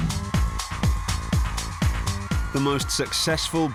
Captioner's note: cheering